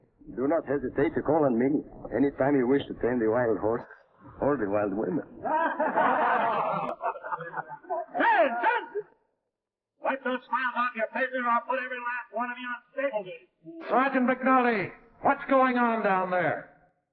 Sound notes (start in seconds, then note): 5.3 men laughing